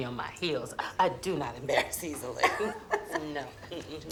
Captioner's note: laughs